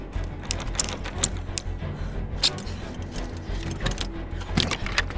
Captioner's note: door rattling